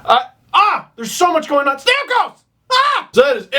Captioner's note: screams